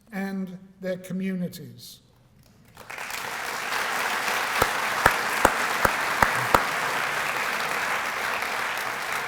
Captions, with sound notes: and their communities." [APPLAUSE]